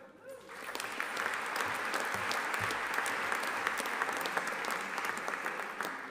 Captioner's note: audience applauding